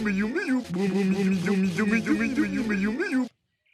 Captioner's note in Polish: Echo